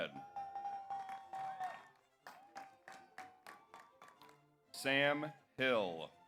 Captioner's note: audience applauds; audience cheers